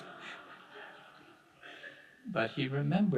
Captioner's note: audience laughing